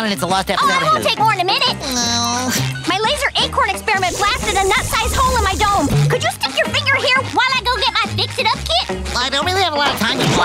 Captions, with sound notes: Oh it won't take more than a minute! [groaning] My laser acorn experiment blasted a nut-sized hole in my dome. Could you put your finger here while I get my fix it up kit? I don't really have a lot of time--